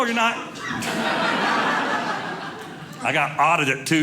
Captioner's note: audience laughing